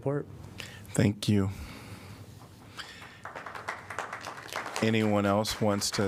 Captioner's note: applause